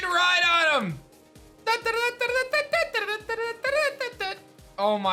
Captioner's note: horse race sound effect